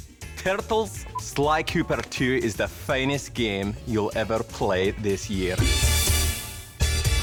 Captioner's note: irish Accent